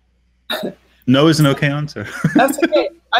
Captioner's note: laughing